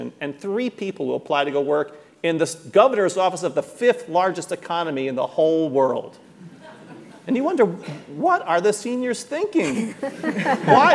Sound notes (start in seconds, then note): 6.5 audience laughing